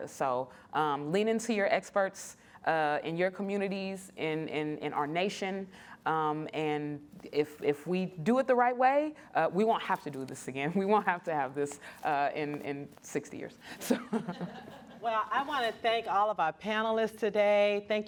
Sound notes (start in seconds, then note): 13.8 laughter